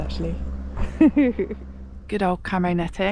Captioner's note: chuckles